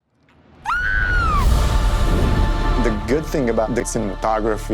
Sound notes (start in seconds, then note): 0.6 screaming